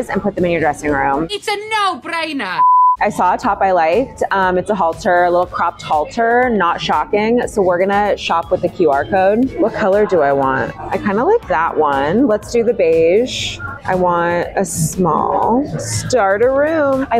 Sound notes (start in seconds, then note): 2.6 screen beeping